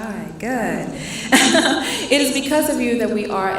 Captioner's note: laughing